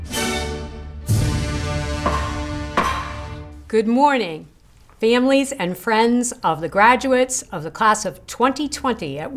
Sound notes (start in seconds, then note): 1.8 hammer beating